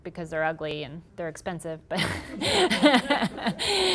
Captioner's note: laughter